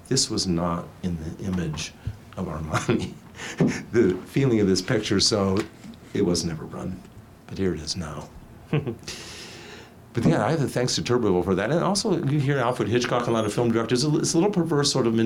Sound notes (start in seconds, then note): 2.7 laughs; 8.7 snickers